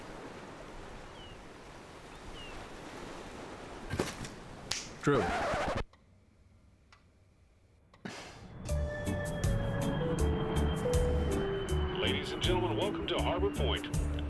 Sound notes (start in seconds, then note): 0.0 seagulls and ocean waves rolling in; 4.2 snaps fingers; 5.0 record scratching sound